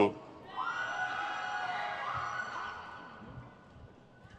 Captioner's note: crowd cheers